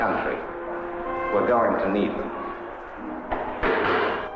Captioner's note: receiver clacking; machines clattering